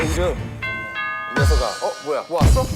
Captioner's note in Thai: ติ๊งต่อง~